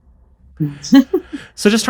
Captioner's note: chuckles